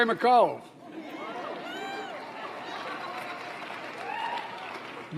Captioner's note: applause